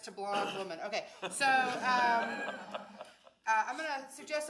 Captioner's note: audience laughs